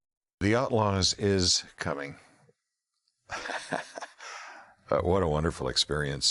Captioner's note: laughing